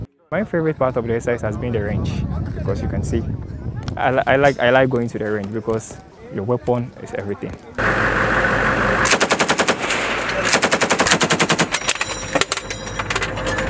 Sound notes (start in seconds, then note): 9.0 rapid gunfire; 11.3 shell casings fall